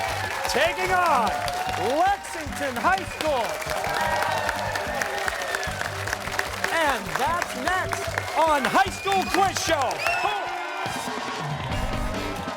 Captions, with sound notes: Taking on Lexington High School! (cheers and applause) And that's next on High School Quiz Show!